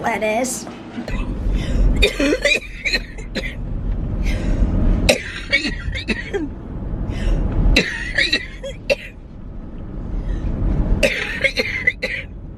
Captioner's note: coughing